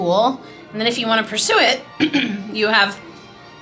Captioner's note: clears throat